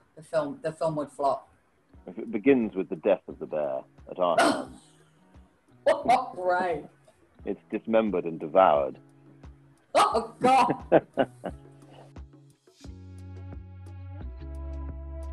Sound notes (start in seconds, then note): 4.9 laughing; 10.0 laughing; 12.7 chill music